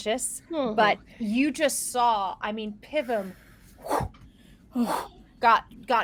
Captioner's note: mimics whooshing